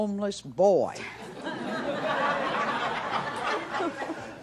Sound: audience laughs

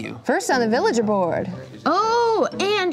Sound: none

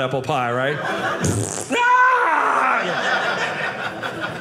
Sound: audience laughing

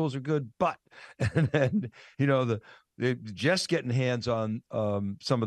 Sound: laughing

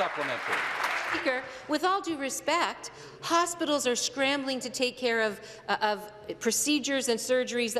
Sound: some Applause

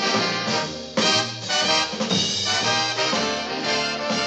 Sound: none

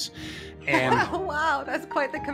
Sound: laughing

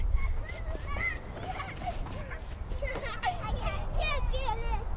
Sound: children shouting, laughing

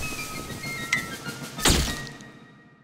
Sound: camera flashing

